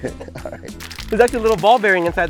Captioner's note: can rattling